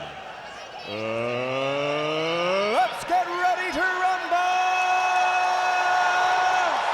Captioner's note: crowd cheering